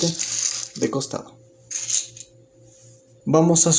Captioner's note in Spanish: Silencio